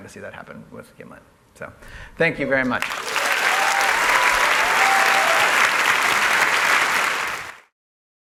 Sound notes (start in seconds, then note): 2.8 applause; 2.8 cheers